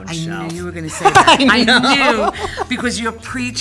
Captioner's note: laughing